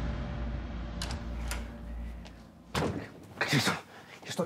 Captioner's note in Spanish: sonido al abrir la puerta